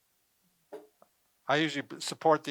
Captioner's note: stool light bang